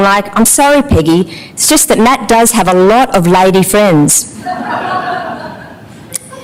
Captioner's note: laughter